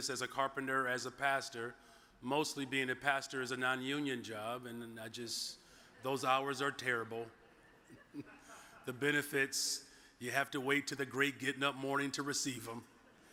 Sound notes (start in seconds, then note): 7.6 audience chuckles